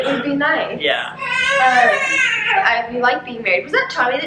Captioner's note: baby crying